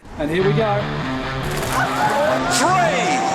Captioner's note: gasping